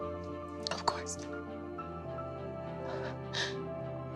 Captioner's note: inhales, clearly emotional